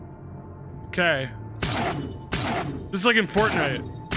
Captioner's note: gun fires